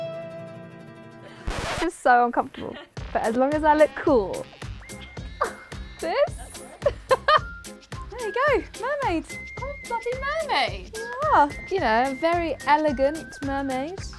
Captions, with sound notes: (record scratching) This is so uncomfortable. But as long as I look cool. This? (laughs) - There you go, mermaids. - Cool bloody mermaid - You are. - You know a very elegant mermaid.